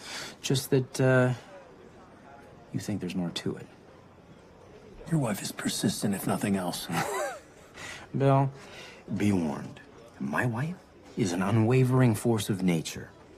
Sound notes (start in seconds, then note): 6.9 laughs